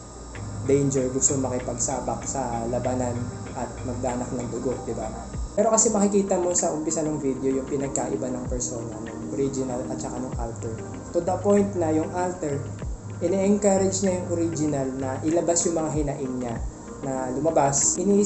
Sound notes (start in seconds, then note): none